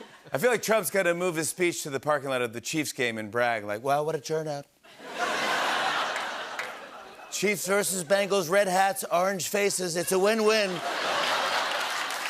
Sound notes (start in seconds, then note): 3.7 As Trump; 5.0 laughter and applause; 10.4 laughter and applause